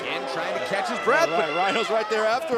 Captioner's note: cheers & boos